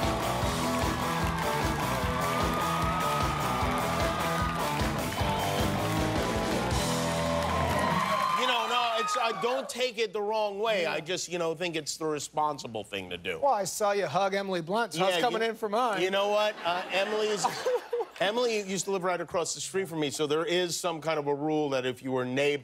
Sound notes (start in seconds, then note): 0.0 cheers and applause